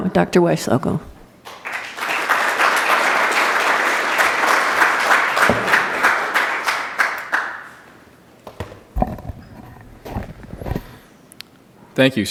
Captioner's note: applause